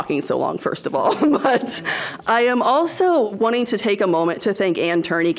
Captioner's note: laughs